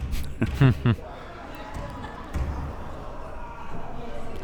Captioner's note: both laughs